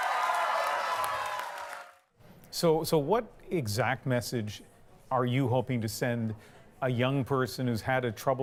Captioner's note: cheers and Applause